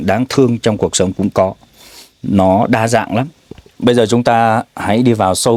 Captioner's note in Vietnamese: khịt mũi